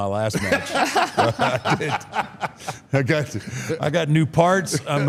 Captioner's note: Paul and Michelle laugh